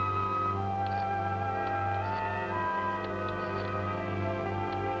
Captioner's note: rotary phone clicking